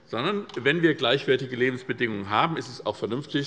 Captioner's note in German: none